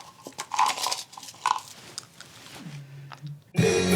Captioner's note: pills clattering; upbeat music